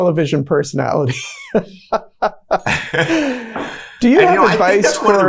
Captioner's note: both laughing